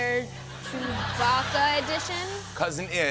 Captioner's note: laughter